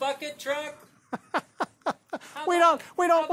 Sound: laughing

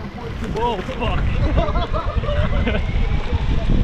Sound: laughs

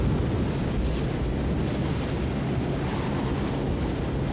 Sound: wind howling

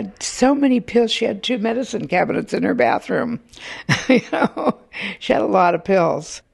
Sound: laughs

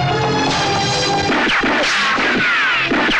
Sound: gun Firing

